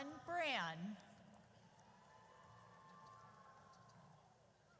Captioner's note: audience cheers